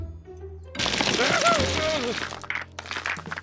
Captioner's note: grunts